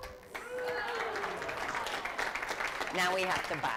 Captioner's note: applause